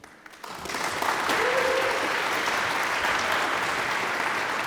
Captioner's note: audience applauds